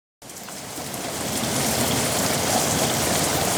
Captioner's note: heavy rain fall